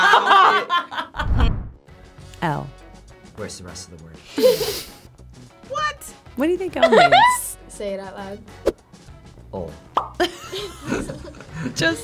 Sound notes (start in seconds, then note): 0.1 laughs; 4.4 chuckles; 6.8 laughs; 10.0 bubble pops; 10.2 chuckles